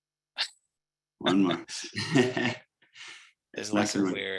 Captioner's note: chuckles